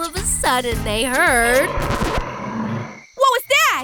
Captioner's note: growls